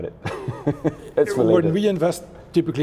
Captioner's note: laughs; mumbles